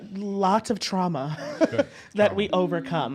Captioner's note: laughs